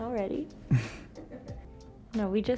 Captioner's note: Brooklyn chuckles; crew member chuckles